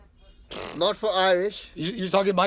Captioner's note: interviewer blowing raspberry